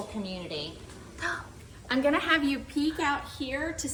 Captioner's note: gasping